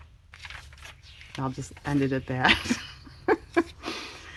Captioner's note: laughs